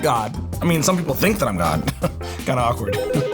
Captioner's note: chuckles; phone ringing